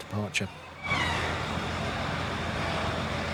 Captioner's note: sounds of the harbourside